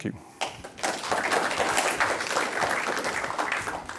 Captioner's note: applause